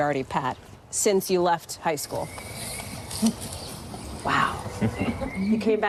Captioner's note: laughter